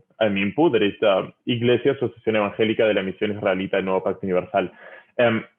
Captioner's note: speaking in foreign language